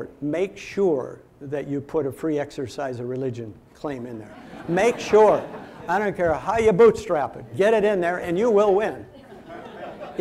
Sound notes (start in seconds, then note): 4.3 audience laughing; 9.1 audience laughing